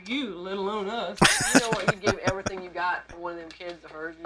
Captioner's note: laughing